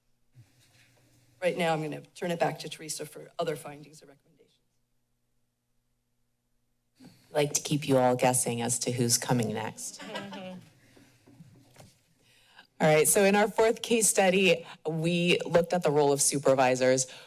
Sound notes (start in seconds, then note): 10.0 laughs